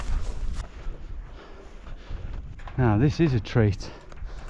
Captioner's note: grass crunching